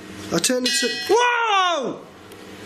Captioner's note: metallic ping